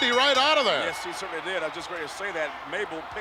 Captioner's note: ring bell clanging